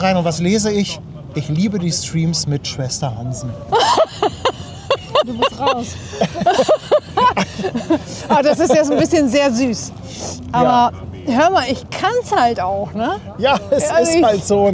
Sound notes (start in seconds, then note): 3.5 laugh